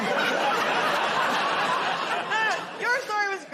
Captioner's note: laughter